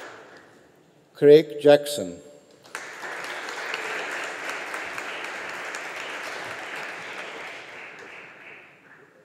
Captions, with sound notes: Craig Jackson. (AUDIENCE APPLAUDING)